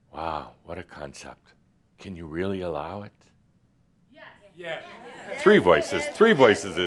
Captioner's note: a few people shout “Yes”